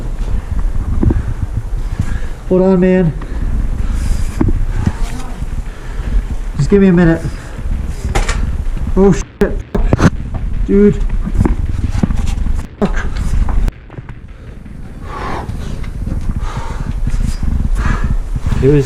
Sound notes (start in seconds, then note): 10.1 beep; 12.9 beep; 14.8 breathing heavily